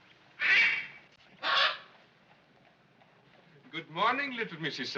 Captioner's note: parrot squawks